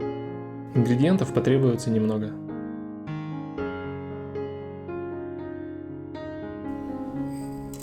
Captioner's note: bell